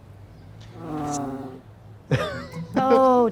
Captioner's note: cat growls